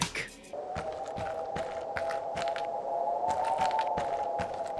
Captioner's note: low wind howling